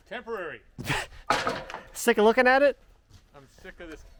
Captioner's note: chuckling